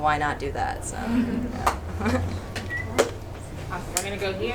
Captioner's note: audience chuckles